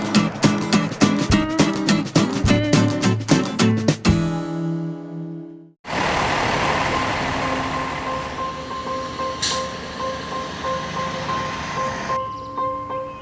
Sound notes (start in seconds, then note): 5.8 truck humming; 8.6 upbeat music